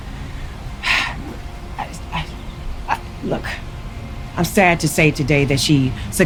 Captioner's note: sighing